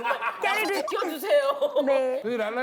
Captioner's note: chuckling